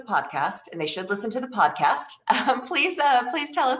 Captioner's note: chuckles